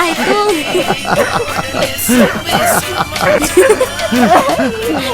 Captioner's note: laugh